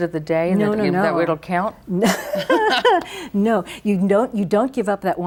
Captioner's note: both laugh